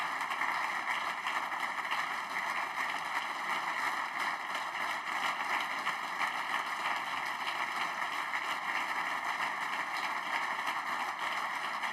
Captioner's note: applause